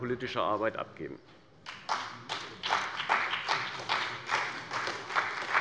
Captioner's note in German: Beifall bei der CDU und dem BÜNDNIS 90/DIE GRÜNEN